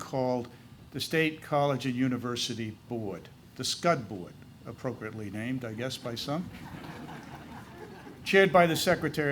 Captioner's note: laughter